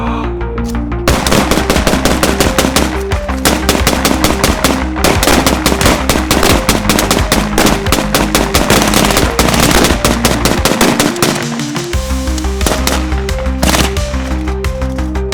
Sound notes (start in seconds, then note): 1.0 gunfire